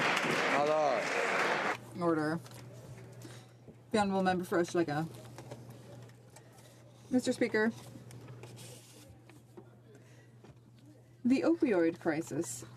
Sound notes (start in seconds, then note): 1.7 some Applause